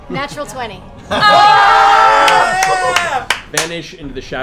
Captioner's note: cheering